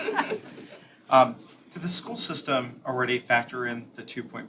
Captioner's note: laughter